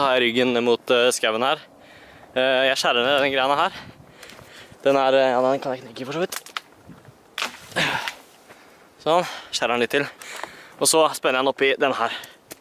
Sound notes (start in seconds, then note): 6.2 crack; 7.6 eeeehh